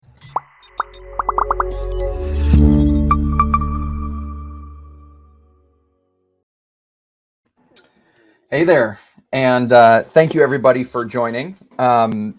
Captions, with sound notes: (bubbles popping) (upbeat techno music) - Hey there, and thank you everybody for joining,